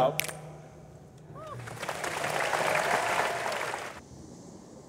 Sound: audience applauds

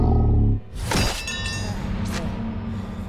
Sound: clanking

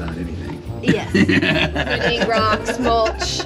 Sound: laughs

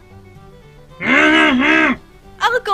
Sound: grunting

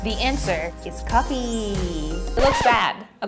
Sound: record scratches

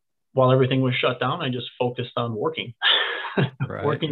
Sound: laughs

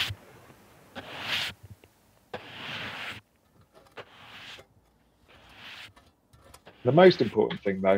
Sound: soft sweeping

